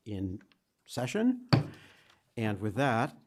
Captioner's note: gavel strike